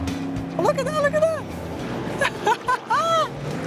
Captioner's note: laughs